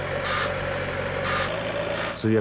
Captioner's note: engine rumbles; lift beeps